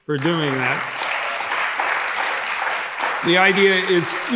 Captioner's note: audience applauding